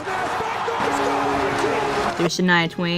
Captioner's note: buzzer